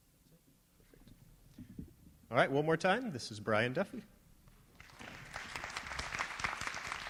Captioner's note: applause